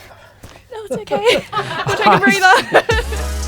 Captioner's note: laughter